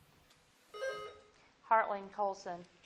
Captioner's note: buzzer blips